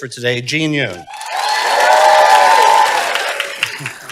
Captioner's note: applause